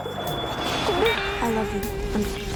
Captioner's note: sobbing